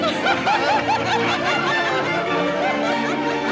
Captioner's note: laughing